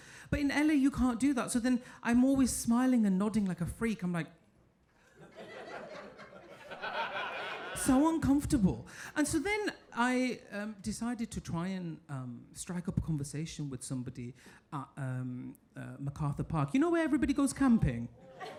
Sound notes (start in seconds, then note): 5.2 audience laughing